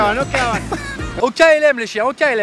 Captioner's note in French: rire